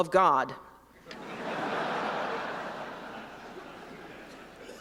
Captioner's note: laughter